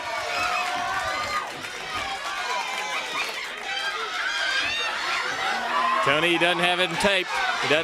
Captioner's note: crowd cheering